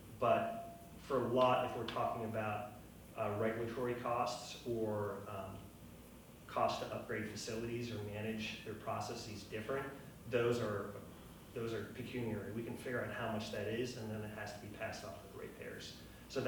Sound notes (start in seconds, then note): none